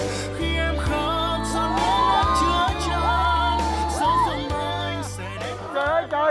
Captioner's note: cheering